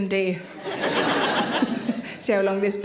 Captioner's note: audience laughing